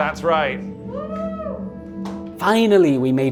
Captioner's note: woman cheers